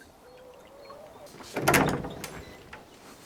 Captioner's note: A door opens